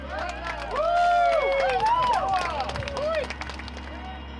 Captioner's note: crowd cheering